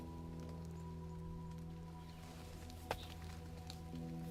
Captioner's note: raindrops falling